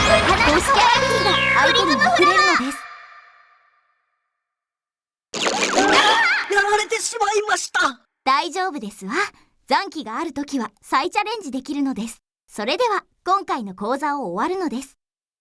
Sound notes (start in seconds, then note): 5.1 pow-Pow-Pow-Pow